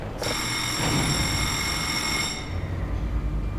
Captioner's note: warning Alarm